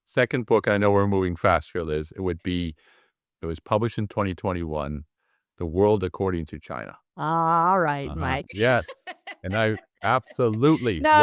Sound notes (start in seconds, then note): 8.0 laugh